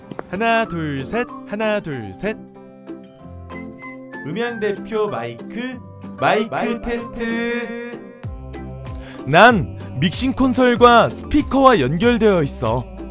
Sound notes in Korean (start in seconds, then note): 4.1 해설2의 울리는 목소리